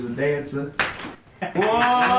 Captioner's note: smacks butt; laughter